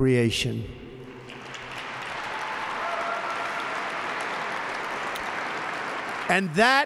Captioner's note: applause